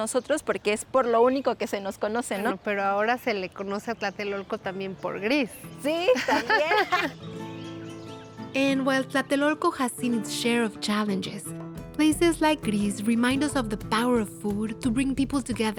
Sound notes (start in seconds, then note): 6.0 both laugh